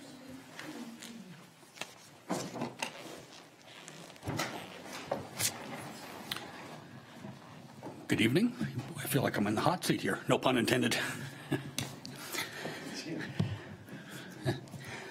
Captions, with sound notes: - Good evening. I feel like I'm in the hot seat here. No pun intended. (chuckles)